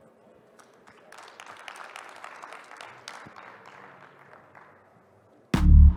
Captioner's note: applause